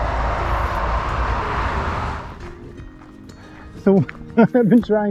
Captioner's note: road noises